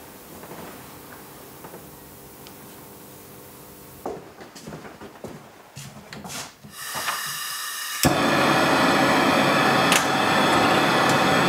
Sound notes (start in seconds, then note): 8.6 hissing